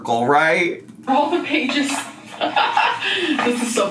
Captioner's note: laughs